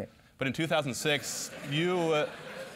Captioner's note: laugh